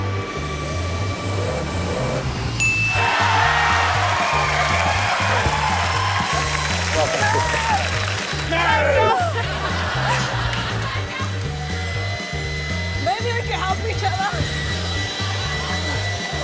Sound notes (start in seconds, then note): 2.9 cheering, applause